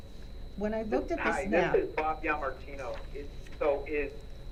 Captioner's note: on Speaker